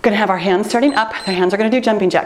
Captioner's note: timer beeps